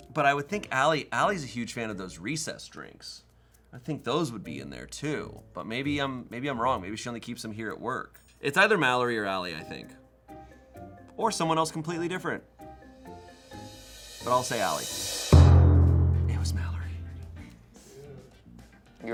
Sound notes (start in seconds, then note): 15.2 thud booms; 17.7 upbeat music